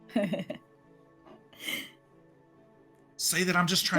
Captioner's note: laughing